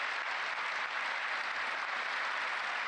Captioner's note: applause